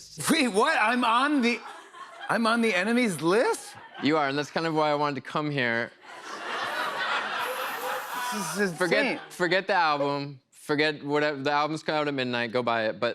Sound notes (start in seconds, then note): 6.0 laughter